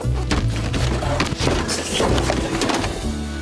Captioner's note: books fall